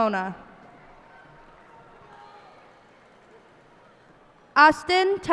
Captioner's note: cheers and applause